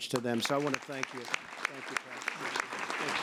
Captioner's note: applause